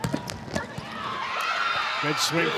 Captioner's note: ball thumping; audience cheering